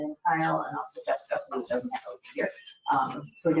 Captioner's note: speaking faintly